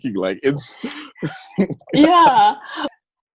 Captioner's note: laughter